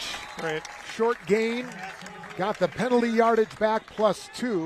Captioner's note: applause